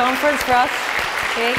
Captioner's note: applause